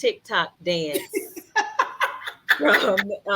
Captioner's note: laughs